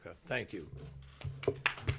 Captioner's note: applause